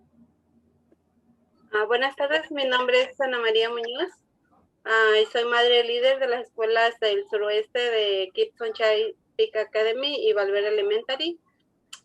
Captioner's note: speaking Spanish